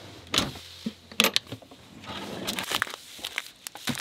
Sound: drawer clicking; rice packages rustling

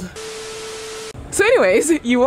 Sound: beeps

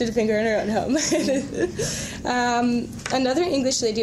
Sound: both laughing

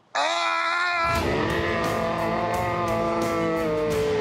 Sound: distorted scream

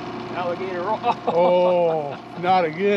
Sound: chuckling

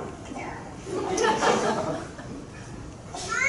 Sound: crowd chuckling

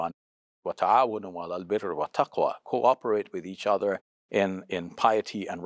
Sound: speaks Arabic

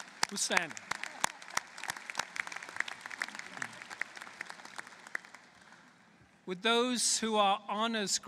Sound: applause

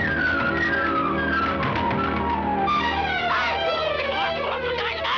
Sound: flames crackling

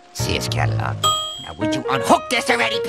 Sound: ding!

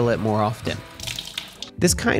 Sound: water trickling

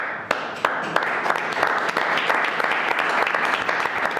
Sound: everyone clapping

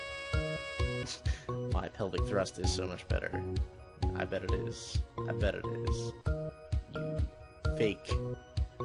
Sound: chuckles

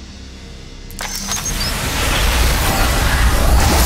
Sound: humming

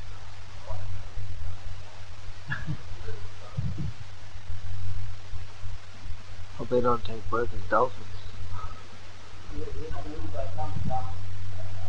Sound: laughter

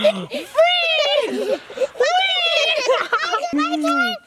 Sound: giggles

